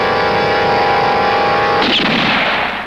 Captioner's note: gun shot